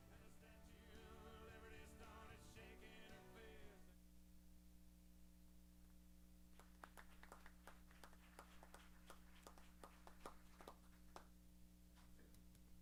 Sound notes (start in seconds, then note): 6.5 applause